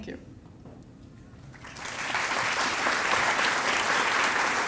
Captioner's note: applause